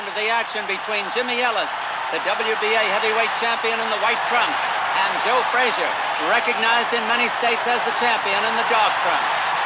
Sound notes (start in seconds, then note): 5.5 crowd cheering continues